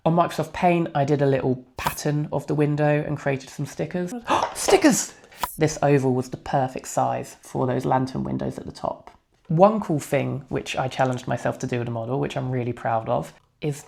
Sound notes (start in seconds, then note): 4.3 gasp